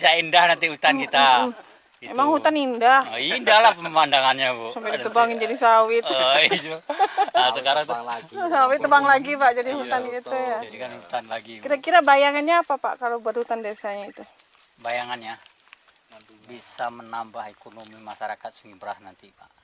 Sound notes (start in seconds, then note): 7.3 all laughing